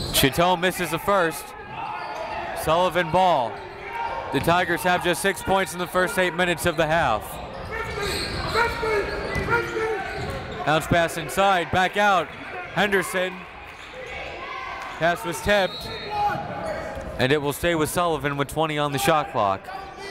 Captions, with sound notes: Chateau misses the first, Sullivan ball. The Tigers have just six points in the first eight minutes of the half. Bounce pass inside, back out, Henderson. Pass was tipped, (whistle) and it will stay with Sullivan with 20 on the shot clock.